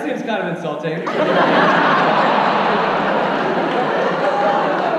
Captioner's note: audience laughs